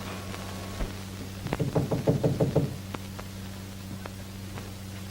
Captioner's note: knocking